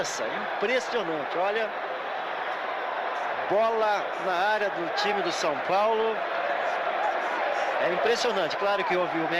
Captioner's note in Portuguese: aplausos